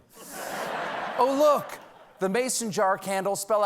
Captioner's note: laughter